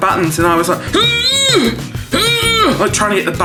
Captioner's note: squeezing